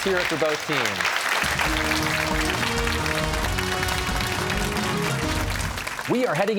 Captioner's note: cheers and applause